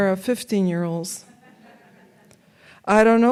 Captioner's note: audience laughs